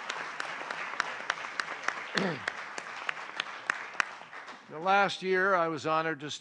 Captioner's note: applause